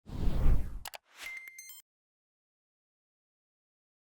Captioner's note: swishes; beeps